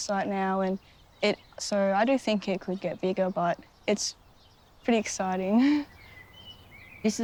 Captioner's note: laughs